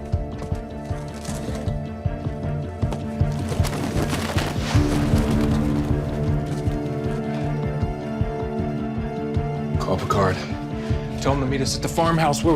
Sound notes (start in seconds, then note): 3.1 money rustling